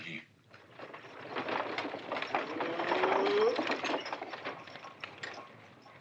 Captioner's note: carriage rattling